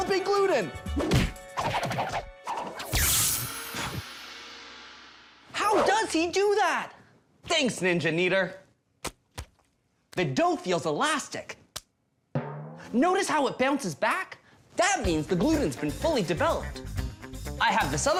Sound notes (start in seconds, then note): 1.0 poof